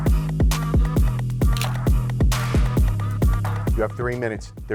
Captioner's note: shutter clicking